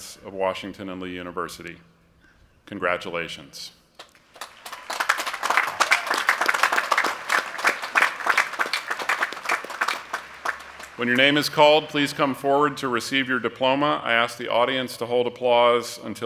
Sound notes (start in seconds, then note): 4.3 cheering and applause